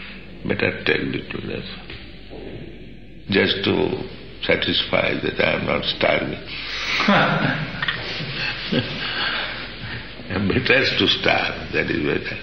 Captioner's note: laughter